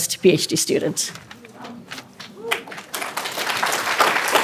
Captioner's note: applause